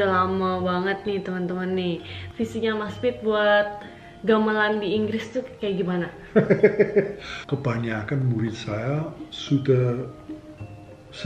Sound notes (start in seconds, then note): 6.2 laughs